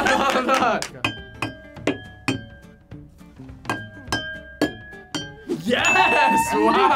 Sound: laughs; glasses chiming

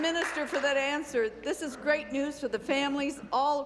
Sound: applause

